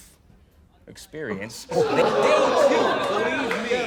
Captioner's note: crowd